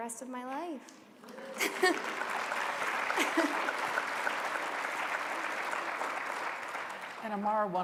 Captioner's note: applause